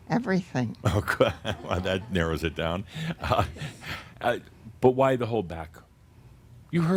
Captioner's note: Adamus chuckles